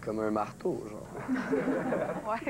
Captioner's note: Rires